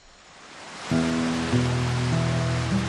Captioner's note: gentle music; water splashing